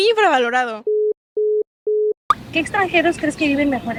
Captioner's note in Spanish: Tono de teléfono ocupado